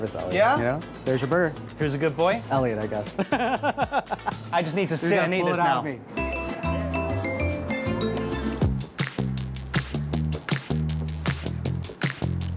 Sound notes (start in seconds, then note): 3.1 laughs; 6.0 island music; 8.5 funky music